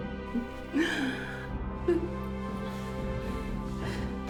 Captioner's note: Faye laughing; dramatic music